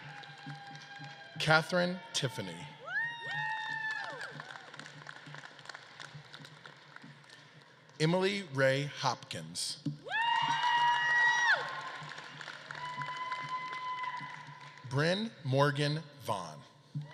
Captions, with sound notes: Katherine Tiffany. (audience claps and cheers) Emily Rae Hopkins. (audience claps and cheers) Brynn Morgan Vaughn.